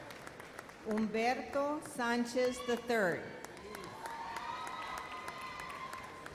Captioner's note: audience applauds